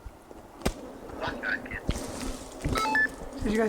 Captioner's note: voice over radio